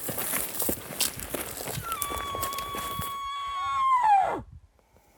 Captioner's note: hunter Bull Call